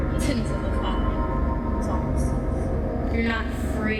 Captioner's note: voice echoes